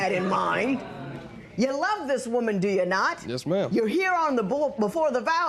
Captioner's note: spectators murmur